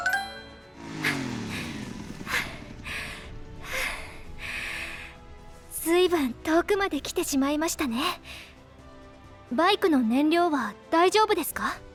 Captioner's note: huff